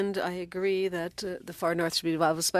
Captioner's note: speaking French